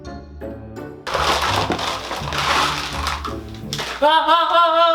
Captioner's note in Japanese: ブロックの音